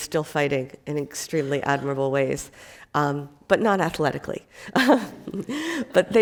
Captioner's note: laughs